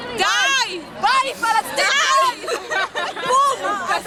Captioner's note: laughter